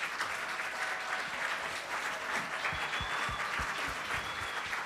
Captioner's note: applause